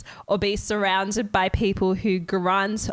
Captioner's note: none